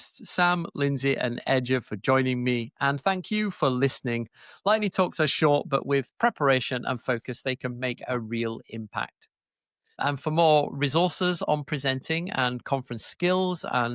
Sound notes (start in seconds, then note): none